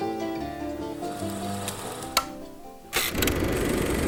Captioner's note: reel clicks